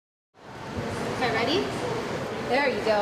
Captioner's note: female voice